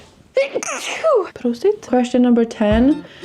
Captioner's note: sneezes; in Swedish